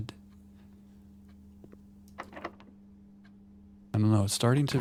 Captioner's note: silence